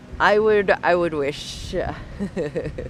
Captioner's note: laughs